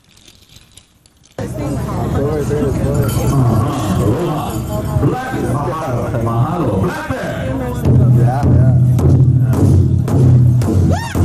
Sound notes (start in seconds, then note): 1.4 crowd chatting; 7.6 drum music; 11.0 native American chanting